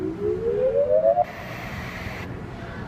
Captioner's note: slowly rising high pitched tone; static